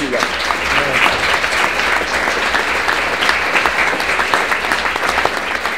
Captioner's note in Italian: applausi